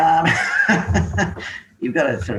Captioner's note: laughs